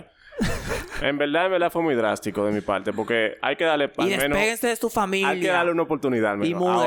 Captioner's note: laughs